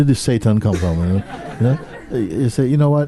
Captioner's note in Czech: smích